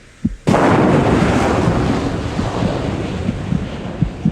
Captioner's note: roaring explosion